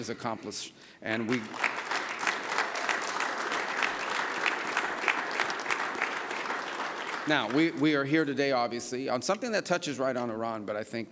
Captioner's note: applause